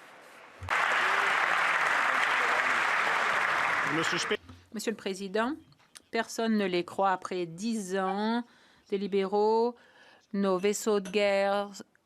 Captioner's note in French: voix de l'interprète